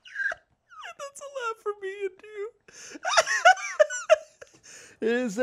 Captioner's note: laughs